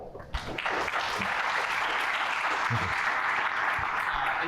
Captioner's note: applause